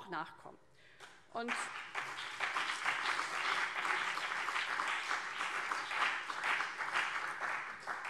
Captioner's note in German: Beifall CDU und BÜNDNIS 90/DIE GRÜNEN